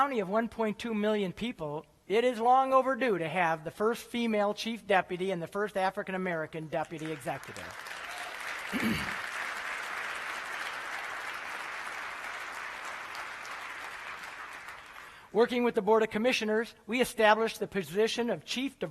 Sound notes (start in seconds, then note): 6.9 applause